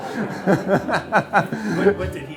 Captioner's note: laughter